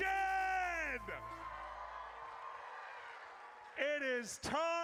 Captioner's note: audience cheers